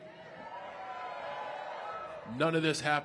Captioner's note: audience cheering